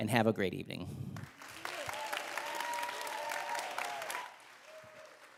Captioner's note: audience cheering